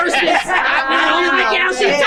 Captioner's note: group laughing